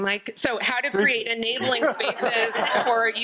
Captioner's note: audience laughing